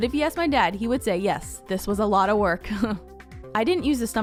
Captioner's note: laughing